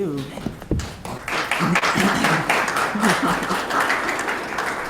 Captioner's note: audience applauding